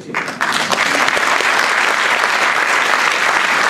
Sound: applause

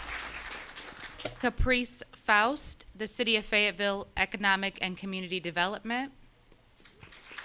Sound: applause

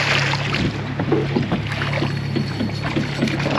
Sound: boat engine idling; fish splashing; reel cranking

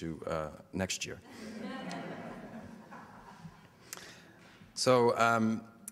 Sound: audience laughter

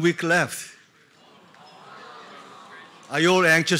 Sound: students murmuring

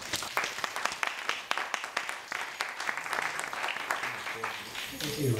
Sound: audience applauding

